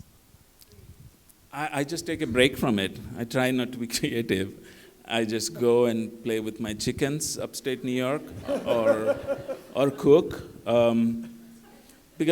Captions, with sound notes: >> I just take a break from it. I try not to be creative. I just go and play with my chickens, upstate New York [LAUGHTER] or cook.